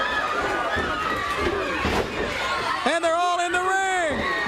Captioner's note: crowd cheering